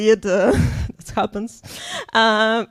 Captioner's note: laughs